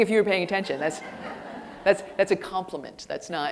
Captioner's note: audience laughing